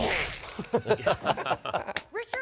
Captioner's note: all laughing